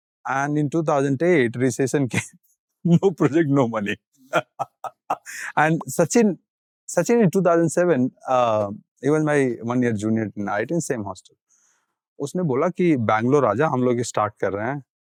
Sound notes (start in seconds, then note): 4.3 chuckling; 12.1 speaking in Hindi